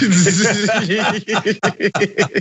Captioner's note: laugh